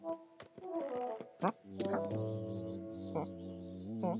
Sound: bee buzzing

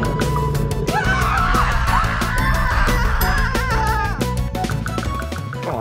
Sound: witch and servant scream

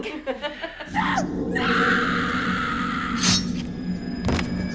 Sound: girls laughing; actor screaming; knife slashing; suspenseful music

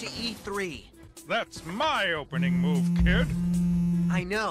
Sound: buzz Buzz

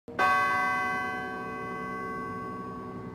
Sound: bells ringing

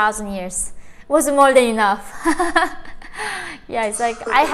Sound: chuckles

